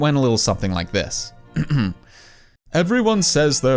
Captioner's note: clears throat